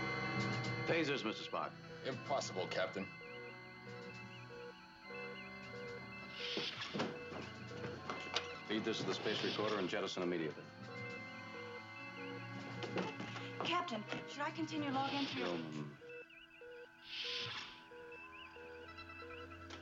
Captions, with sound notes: Phasers, Mr. Spock. Impossible, captain. ( door slides open ) Feed this to the space recorder and jettison immediately. Captain, should I continue log entry, or--? Yeoman.